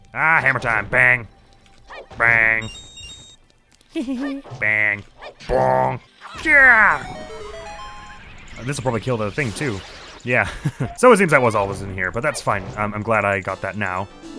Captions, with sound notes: Argh, hammer time! "Bang!" "Bang!" Hee hee hee! "Bang!" "Bong!" GYAHHH! This'll probably kill the thing, too. Yeah. *chuckles* So it seems that was all that was in here, but that's fine! Um, I'm glad I got that now.